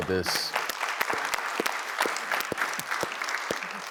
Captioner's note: audience clapping